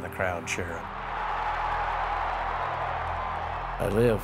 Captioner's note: cheering